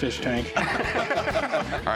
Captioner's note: laughter